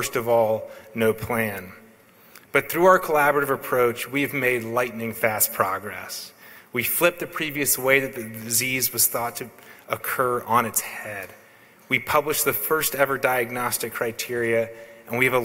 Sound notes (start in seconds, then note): none